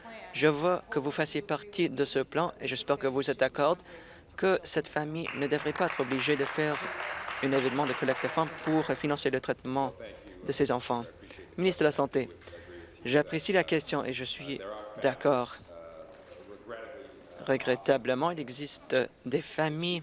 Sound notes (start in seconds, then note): 9.5 applause